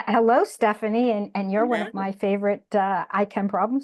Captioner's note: speaking faintly